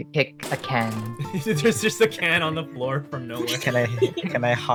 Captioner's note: laugh